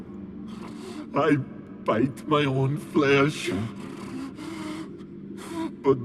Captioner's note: panting; panting